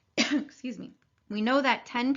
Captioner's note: teacher coughing